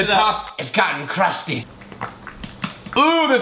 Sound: mayonnaise squishing

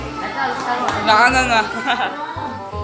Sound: laughter

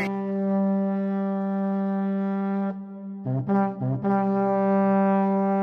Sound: horn sounding

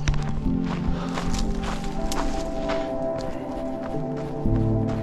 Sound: footsteps crunching

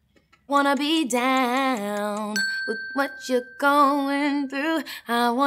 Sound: ping

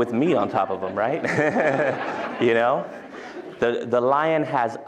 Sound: laughter

